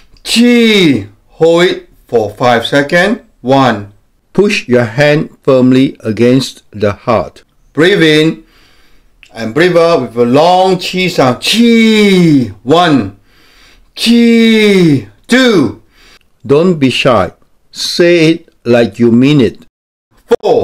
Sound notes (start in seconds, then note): 0.0 inhales; 13.2 inhales; 15.8 inhales